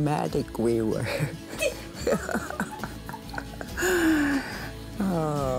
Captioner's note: laughing